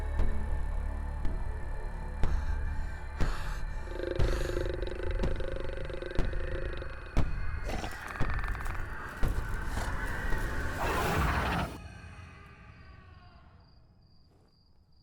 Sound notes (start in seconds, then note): 4.0 snarling; 11.9 Tommy screaming